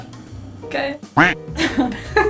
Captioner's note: beeping